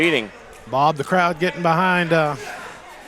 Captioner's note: crowd Cheering On